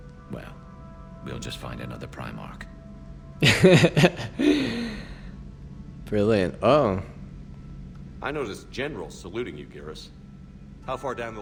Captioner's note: laughs